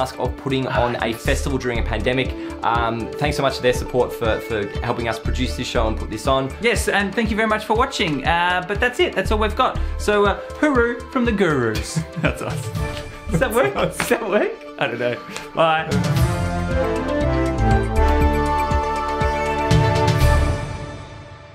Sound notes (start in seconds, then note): 11.8 laughing; 16.6 news music